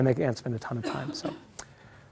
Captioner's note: cough